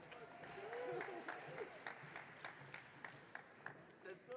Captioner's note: audience cheering